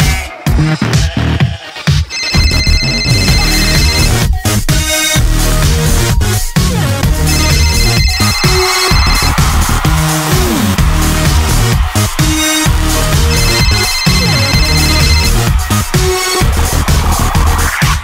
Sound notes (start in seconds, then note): 2.0 cell phone ringing